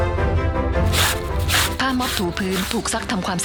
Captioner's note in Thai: เสียงซักผ้า